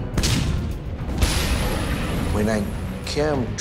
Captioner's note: explosions booming